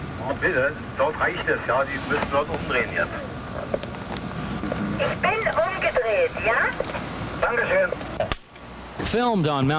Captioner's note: crew members speaking German